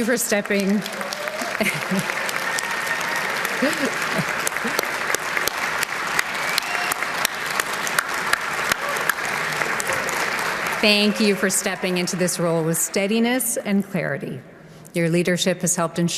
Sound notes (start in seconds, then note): 4.4 applause